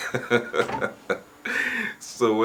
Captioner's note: laughing